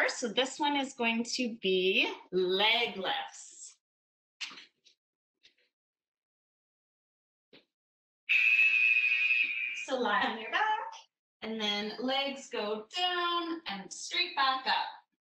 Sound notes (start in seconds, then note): 8.3 alarm blares